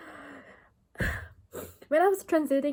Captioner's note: big sigh